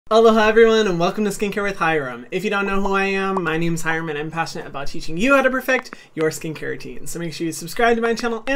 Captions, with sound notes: - Hello, hi everyone. And welcome to Skincare with Hyram. If you don't know who I am, (popping) my name's Hyram and I'm passionate about teaching you how to perfect your skincare routine. So make sure you subscribe to my channel